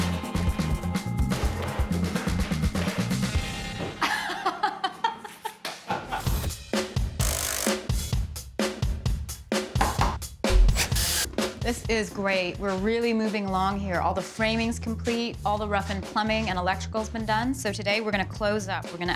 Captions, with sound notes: [ Laughs ] This is great. We're really moving along here. All the framing's complete. All the rough-in plumbing and electrical's been done. So, today, we're gonna close up.